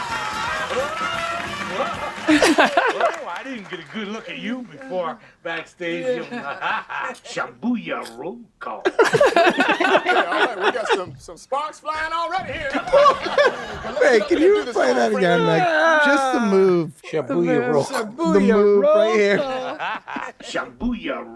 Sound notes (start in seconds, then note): 2.5 laughing softly; 8.8 all laughing loudly; 12.3 all laughing loudly